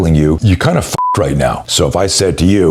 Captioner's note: beep